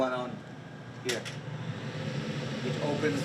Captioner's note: air whooshing